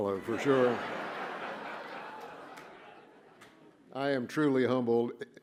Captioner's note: laughter